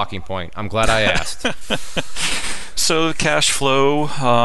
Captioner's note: laughing